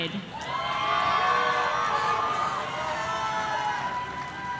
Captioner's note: audience cheering